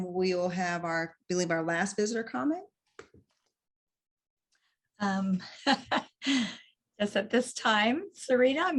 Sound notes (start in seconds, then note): 5.5 laughs